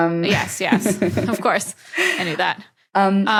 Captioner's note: both chuckle